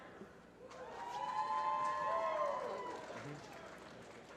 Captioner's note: applause